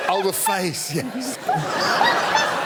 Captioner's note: laughter